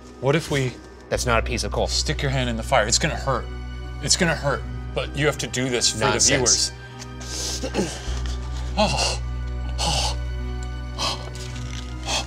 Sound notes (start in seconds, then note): 7.4 gasping